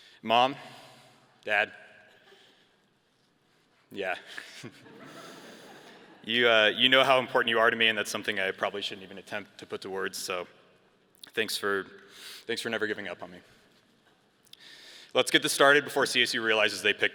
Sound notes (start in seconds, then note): 4.6 all chuckle